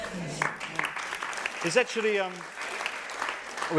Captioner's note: applause